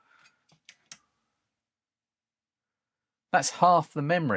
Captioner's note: silence